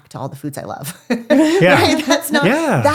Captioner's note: laughs